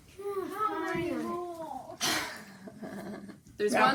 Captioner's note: kids moaning